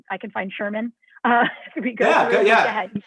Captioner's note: laughter